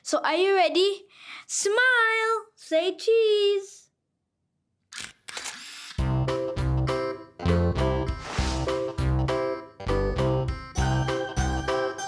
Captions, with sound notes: So are you ready, smile, say cheese! (camera shutter snaps) (bright music)